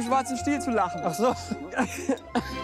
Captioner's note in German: Pierre lacht weiter